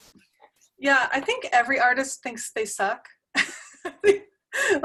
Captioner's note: laugh